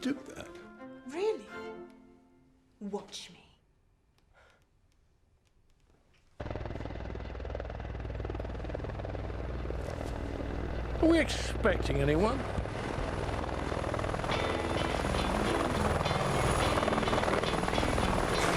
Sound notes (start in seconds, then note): 7.1 helicopter engine rumbling; 13.3 helicopter engine whirring; 14.4 upbeat music